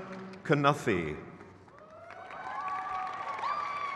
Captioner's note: crowd cheers